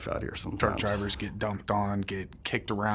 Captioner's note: voiceover